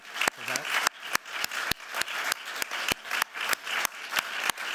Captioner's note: applause